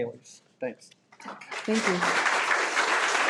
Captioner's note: audience applauding